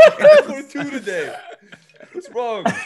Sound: laugh

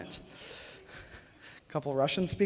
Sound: laughter

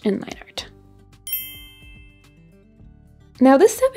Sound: bell chiming

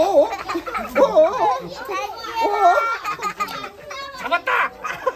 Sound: laughing

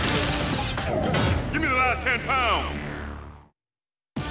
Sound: voiceover

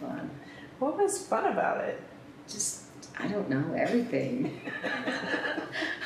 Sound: laughter

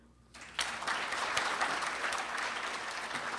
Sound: applause

